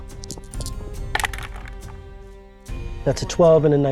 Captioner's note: dice rattling